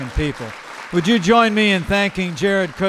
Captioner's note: applause